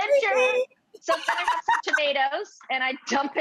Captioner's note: Rachael chuckling